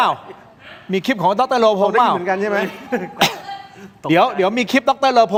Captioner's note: laughter